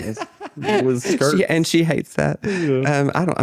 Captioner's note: laughing